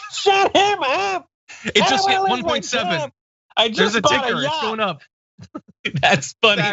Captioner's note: laugh